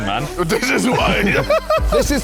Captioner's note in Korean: 웃음